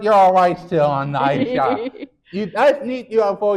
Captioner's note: laughing